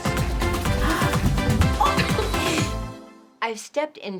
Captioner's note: laughs